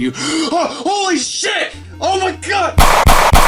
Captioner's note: gasps